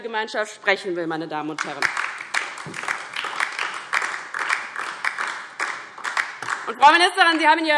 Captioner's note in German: Beifall DIE LINKE und vereinzelt SPD